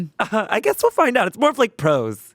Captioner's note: laughs